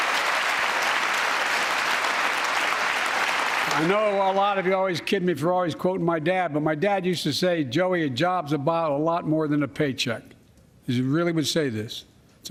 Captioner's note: applause